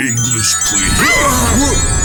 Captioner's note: mario, peach, and bowser scream